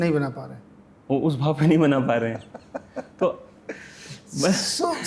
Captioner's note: laughs